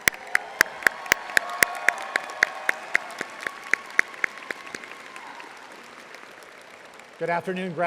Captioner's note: audience applauding